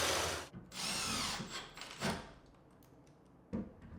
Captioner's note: drill whirs